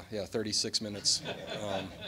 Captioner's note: laughter